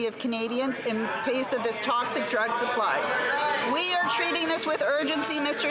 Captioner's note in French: voix de l'interprète